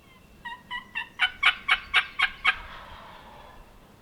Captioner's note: turkey calls; turkey gobbles